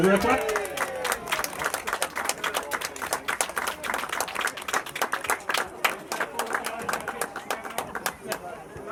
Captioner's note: applause